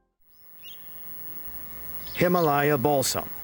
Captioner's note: birds chirping